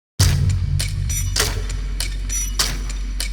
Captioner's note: ominous sound of the hatman approaching